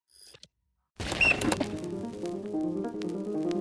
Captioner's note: whistle blowing; piano music